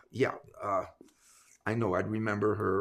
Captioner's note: none